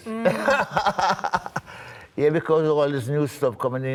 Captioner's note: laughter